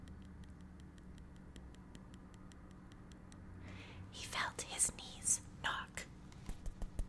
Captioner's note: ASMR Tapping sounds